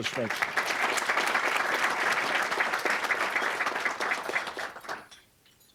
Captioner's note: applause